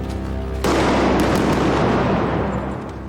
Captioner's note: gun shots